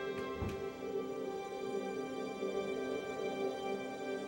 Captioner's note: door shuts softly